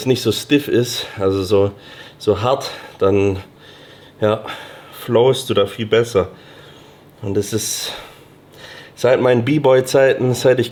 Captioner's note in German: seufzt